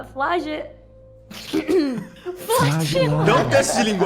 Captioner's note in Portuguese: pigarreando